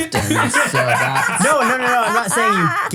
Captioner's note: laugh